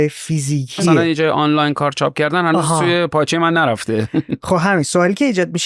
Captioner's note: laughs